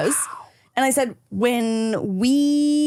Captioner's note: whispers